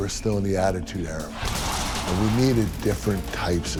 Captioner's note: plexiglass crashing